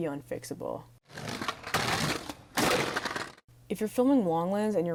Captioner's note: skateboard rolling